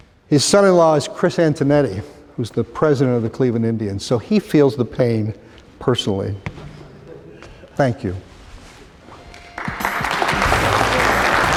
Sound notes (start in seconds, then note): 6.6 laughter; 9.4 applause